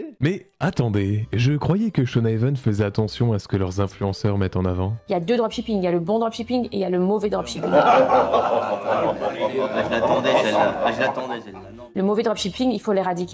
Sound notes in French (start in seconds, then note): 7.6 Rires